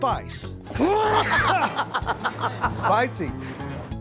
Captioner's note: laughter